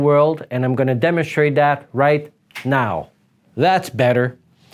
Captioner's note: finger snap